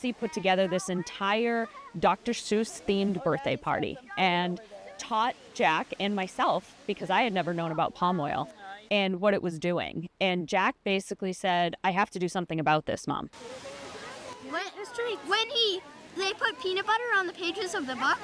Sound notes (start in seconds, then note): 13.4 indistinct chatter